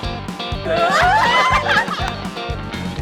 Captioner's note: laughs